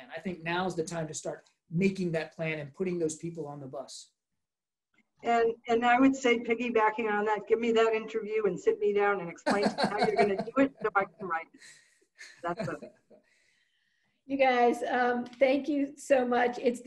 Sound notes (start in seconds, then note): 9.4 laughs